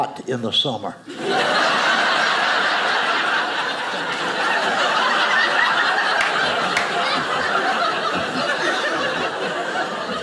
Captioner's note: audience laughing